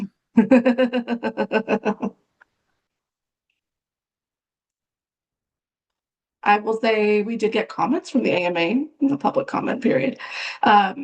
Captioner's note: laughs